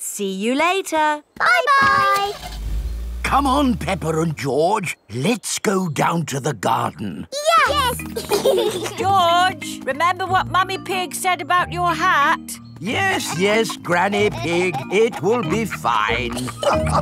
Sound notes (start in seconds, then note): 8.0 giggling; 16.8 all laughing